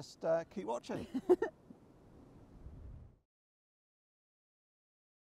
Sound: laughing

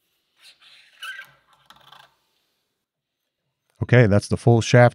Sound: metal squeaking

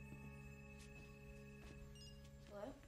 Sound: cell phone ringing

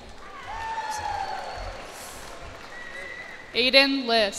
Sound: cheers and applause

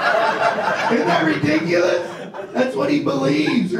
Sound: audience laughs; laughs

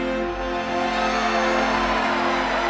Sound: cheering

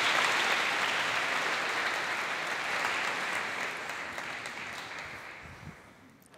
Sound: applause

